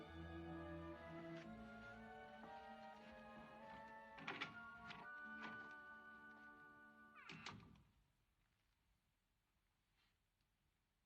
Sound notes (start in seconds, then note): 4.3 door Opens, Closes